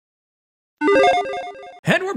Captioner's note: logo beeps